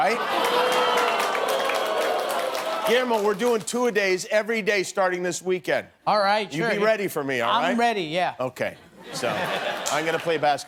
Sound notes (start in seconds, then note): 3.2 audience groaning